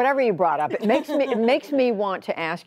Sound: laughter

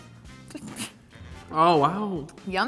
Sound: laughs

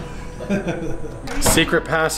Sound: laughing

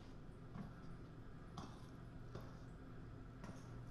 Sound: footsteps

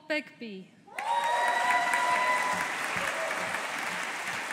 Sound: audience applauding

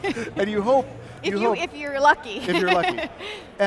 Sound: laughs; laughs

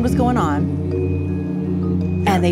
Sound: humming sound

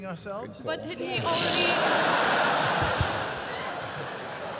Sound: laughter

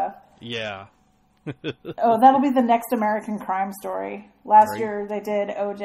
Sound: DJ laughs

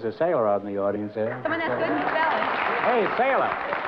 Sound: applause

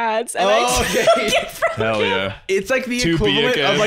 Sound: laughing

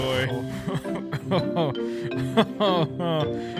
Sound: laughs

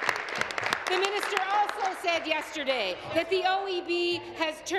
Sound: applause

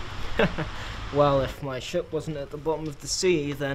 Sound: chuckles

